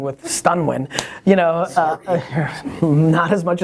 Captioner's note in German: Lacht